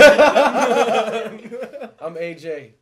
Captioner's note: laughing